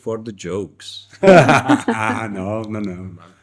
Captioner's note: laughter